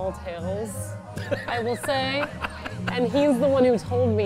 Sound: laughs

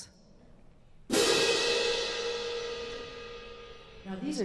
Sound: one loud crash

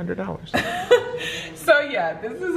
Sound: laughs

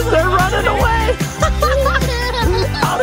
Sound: laughing

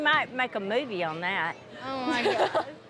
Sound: laughs

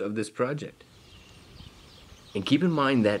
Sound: birds singing

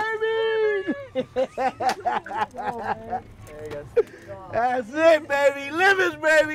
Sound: laughing

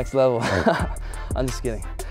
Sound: laughing

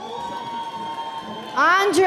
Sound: audience cheering

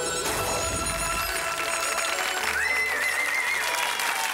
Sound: audience applauds

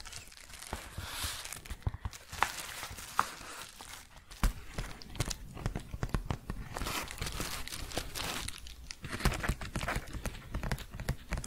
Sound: shuffling and crinkling, then tapping

